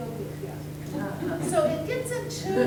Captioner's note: everyone laughing